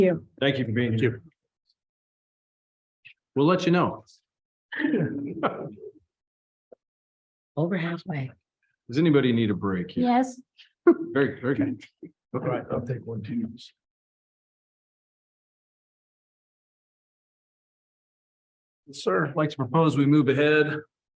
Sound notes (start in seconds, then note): 4.7 trustees chuckle